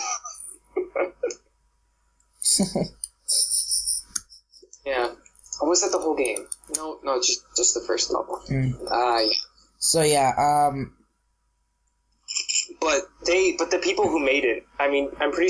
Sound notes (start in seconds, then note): 0.0 laughs; 0.6 laughs as well